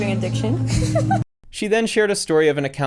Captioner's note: laughs